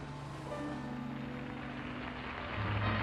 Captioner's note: applause